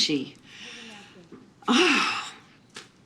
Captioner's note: exhales